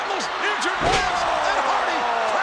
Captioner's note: body thuds